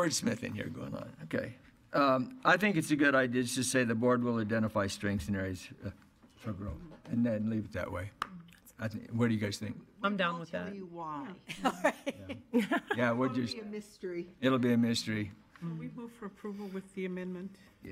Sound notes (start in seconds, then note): 11.4 laughter